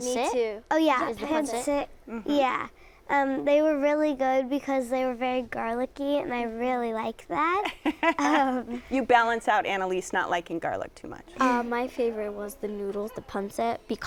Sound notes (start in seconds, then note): 7.7 both laugh